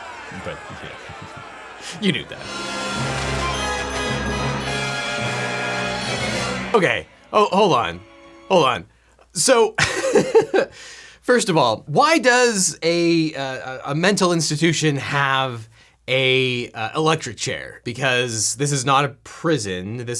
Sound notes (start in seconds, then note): 2.2 dramatic music; 9.8 laughs